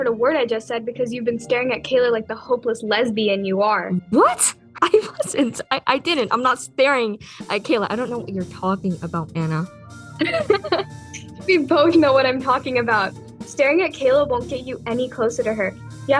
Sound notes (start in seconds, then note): 10.2 ana laughs